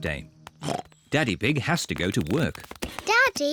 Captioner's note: oinks